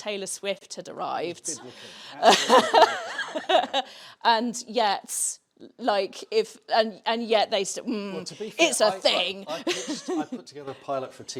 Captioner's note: laughs